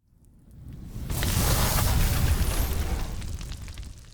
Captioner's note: fire crackling